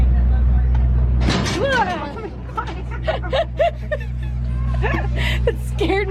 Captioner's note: train clunks ominously